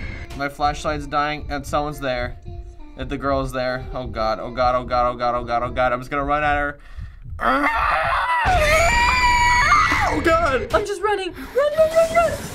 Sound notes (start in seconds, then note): 2.4 child sings; 7.4 shrieking; 7.5 screaming through teeth